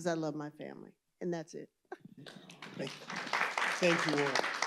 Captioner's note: applause